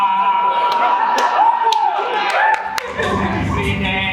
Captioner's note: audience laughs and cheers